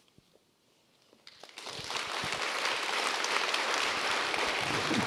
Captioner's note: applause